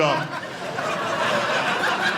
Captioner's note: audience laughing